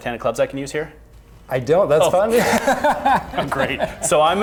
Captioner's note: both laughing